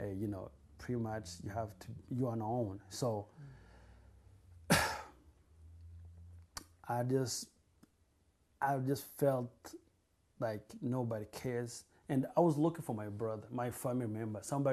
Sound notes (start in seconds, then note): 4.7 sighs